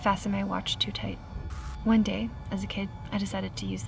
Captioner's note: static crackles